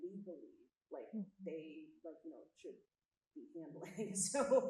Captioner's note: chuckles